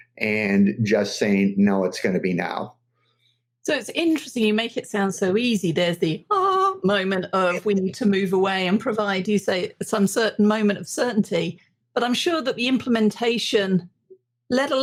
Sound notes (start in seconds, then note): 6.4 singsong